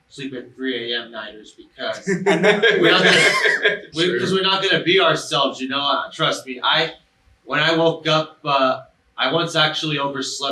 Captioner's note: laughter